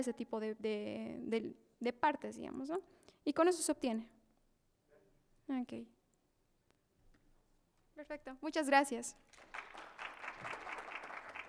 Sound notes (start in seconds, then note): 6.5 Aplausos